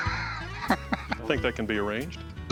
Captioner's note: Rick chuckles